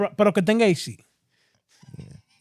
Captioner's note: speaking Foreign Language